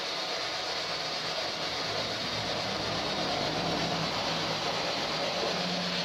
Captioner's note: white Noise